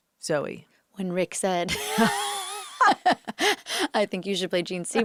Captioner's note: laughs